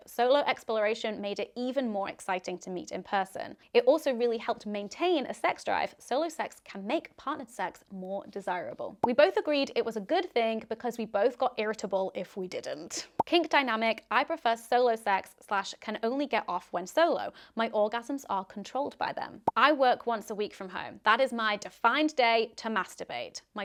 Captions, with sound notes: Solo exploration made it even more exciting to meet in person. It also really helped maintain a sex drive. Solo sex can make partner sex more desirable." (popping) "We both agreed it was a good thing because we both got irritable if we didn't." (popping) Kink dynamic. "I prefer solo sex/can only get off when solo. My orgasms are controlled by them." "I work once a week from home. That is my defined day to masturbate.